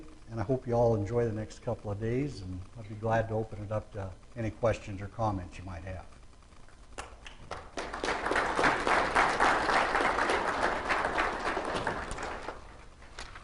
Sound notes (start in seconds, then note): 7.0 clapping